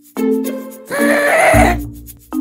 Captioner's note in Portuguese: Grito de ghast